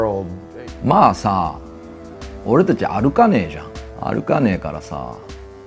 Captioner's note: speaking in foreign language